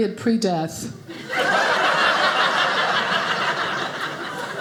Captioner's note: audience laughing